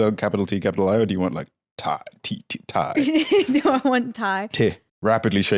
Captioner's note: laughs